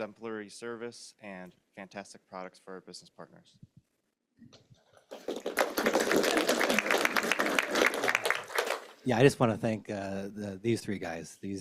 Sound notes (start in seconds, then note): 5.0 applause